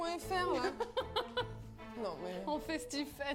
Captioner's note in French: rire